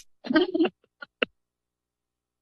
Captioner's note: laughter